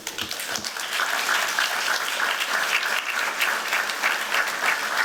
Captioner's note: applause